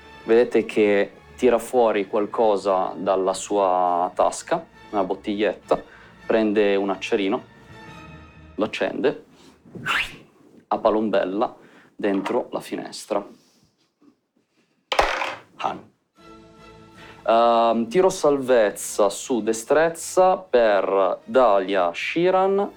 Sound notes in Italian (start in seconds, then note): 9.8 Fischio